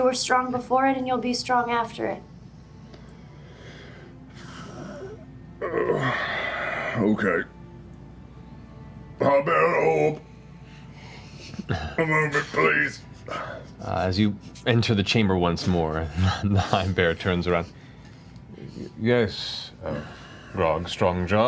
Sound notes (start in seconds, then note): 3.0 exhales; 6.0 strained